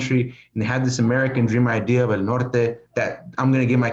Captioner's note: foreign language